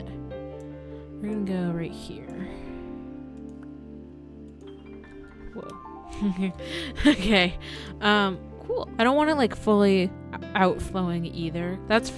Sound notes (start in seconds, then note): 6.2 laughs